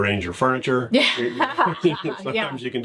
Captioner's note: both laugh